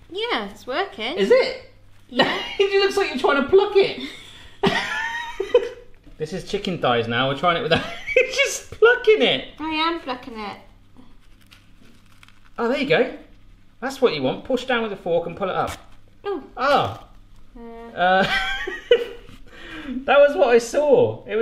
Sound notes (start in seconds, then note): 4.6 laughing; 7.7 laughing; 18.1 laughing